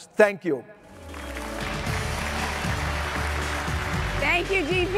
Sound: upbeat music; audience applauding

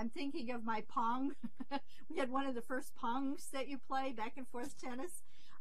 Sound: laughs

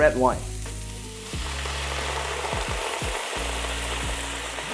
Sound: sizzling sound

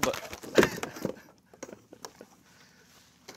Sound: laughs

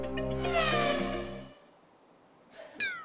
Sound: silence

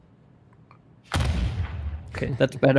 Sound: booming sound

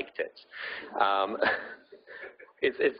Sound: audience laughing

